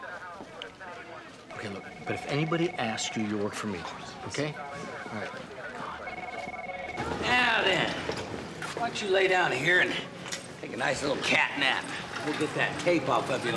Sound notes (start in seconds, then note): 6.2 whispers